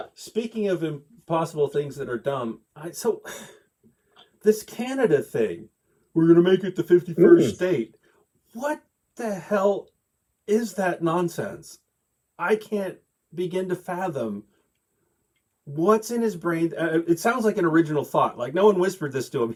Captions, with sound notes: Speaking of impossible things that are dumb. So this Canada thing, [mocking] “We're going to make it the 51st state.” He was right all the way down. What the hell is that nonsense? I can't begin to fathom what's in his brain. It sounds like an original thought. Like no one whispered this to him.